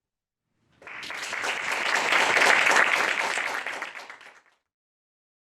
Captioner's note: audience applauds